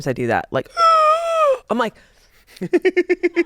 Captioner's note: gasps; laughs